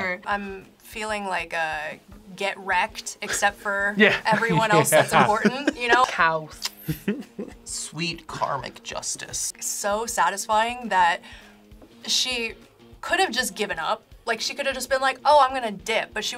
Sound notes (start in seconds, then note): 6.6 smooches